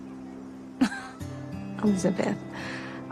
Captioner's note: chuckles